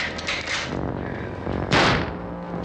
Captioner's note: gunshot